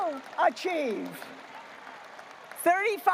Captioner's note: graduates applauding